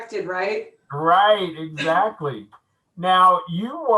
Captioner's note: laughing